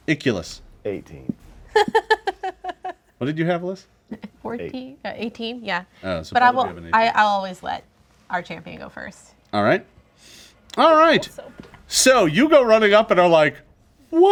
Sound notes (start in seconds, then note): 1.8 laughing